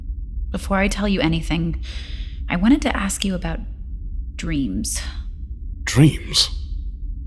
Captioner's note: sighing